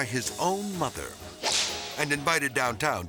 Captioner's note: whip cracks